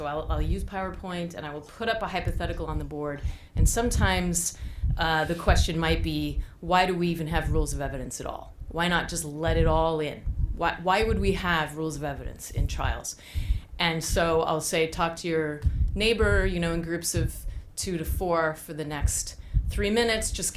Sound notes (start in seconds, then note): none